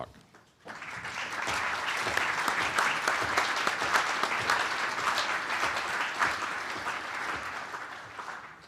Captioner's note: applause